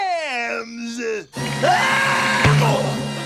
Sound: screaming

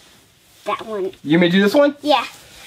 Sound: voiceover

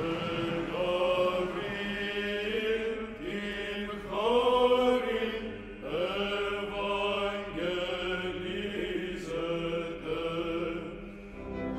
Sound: clapping; chanting

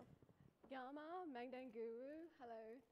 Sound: speaking in foreign language

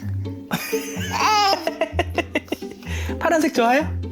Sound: laughing

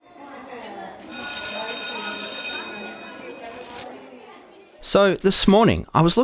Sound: bell ringing over children chattering

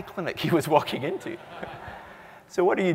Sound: laugh

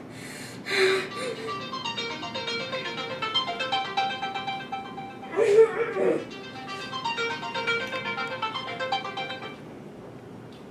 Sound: phone ringing

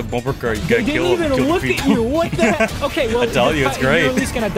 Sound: laughing

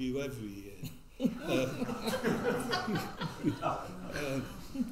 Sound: all laughing

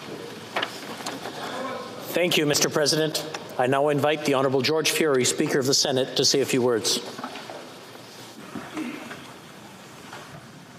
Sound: chanting

